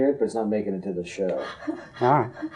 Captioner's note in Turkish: Görüşmeci cackling devam ediyor